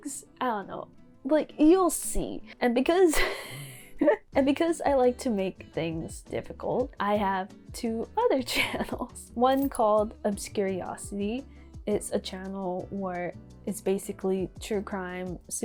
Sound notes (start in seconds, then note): 3.3 wheeeeeeze